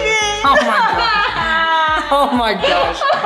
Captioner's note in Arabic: صرخات مزيفة